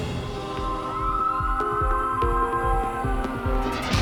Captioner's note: sirens wailing